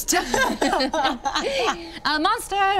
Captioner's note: group laughing